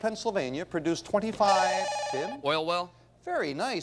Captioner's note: bell rings